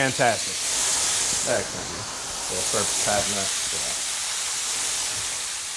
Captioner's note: sizzling food drowns out speaker